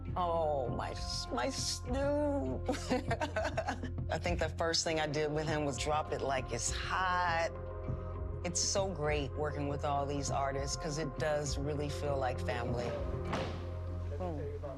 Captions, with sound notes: Snoop, aww, my Snoop! [laughs] I think the first thing I did with him was "Drop It Like It's Hot." And it's so great working with all these artists 'cause it does really feel like family.